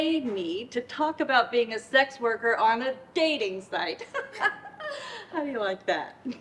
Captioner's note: laughs